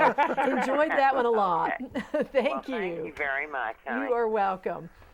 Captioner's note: laughing